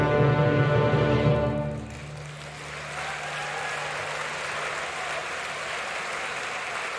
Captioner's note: applause